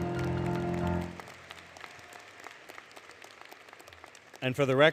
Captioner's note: applause; applause, Music